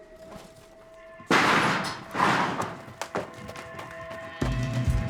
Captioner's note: metal door banging; dramatic music